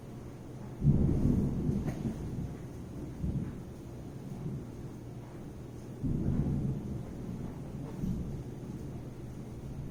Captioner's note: thunder